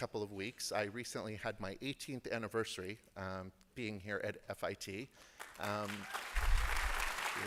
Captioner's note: applause